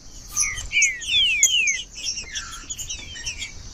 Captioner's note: trinca ferro cantando